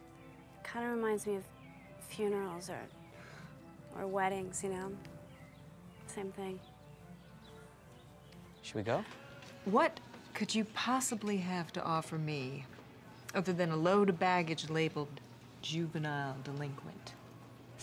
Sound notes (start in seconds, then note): none